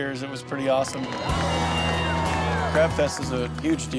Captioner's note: cheering